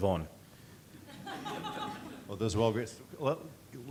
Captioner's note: audience laughter